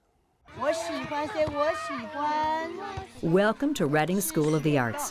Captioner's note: speaking Mandarin Chinese: “I like it, yes, I like it”